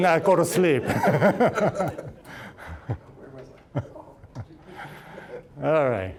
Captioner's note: all laughing